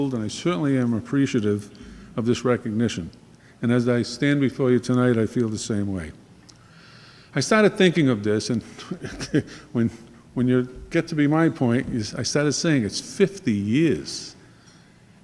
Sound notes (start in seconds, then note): 8.8 laughing